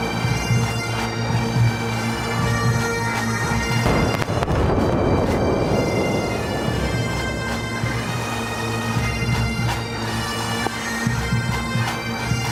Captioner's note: artillery Salute; bagpipes